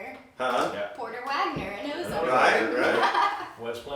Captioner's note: laughing